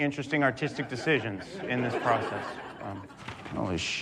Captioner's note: audience laughs